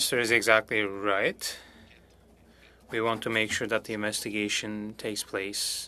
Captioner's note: speaking French